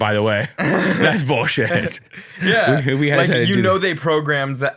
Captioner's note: both laughing